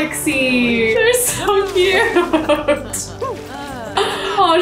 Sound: laughs

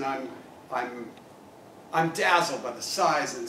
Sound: none

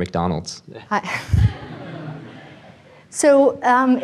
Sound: audience laughs

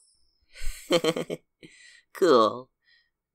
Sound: chuckles

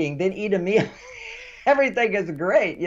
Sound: laughing

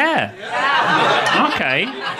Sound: audience laughing

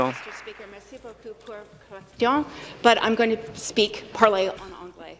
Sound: applause

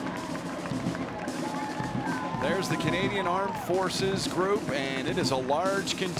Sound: applause

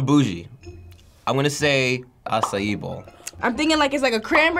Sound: bubble popping

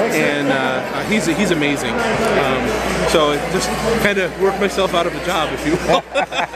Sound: laughing

